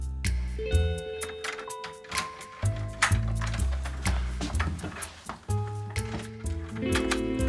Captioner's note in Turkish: Kapı kilidi sesi